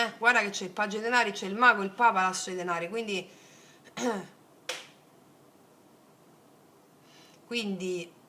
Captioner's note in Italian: schiarire la voce